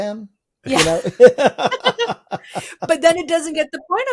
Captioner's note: all laughing